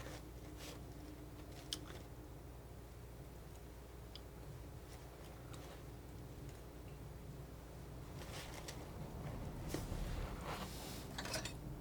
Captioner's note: scratching